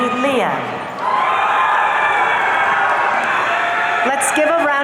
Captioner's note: audience cheering